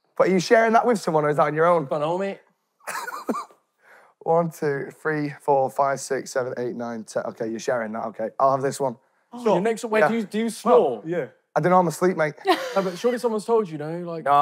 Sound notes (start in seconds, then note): 2.8 laughing